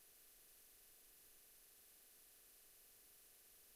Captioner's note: none